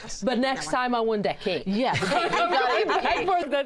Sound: laughter

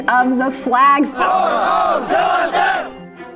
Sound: crowd yelling

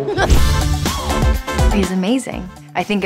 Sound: laughs

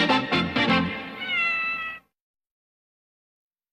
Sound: Mimsie mews

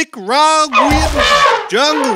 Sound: elephant shriek

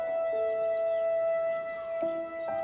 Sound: none

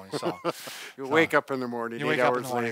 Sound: laughs

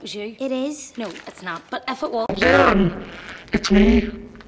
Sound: demonic voice

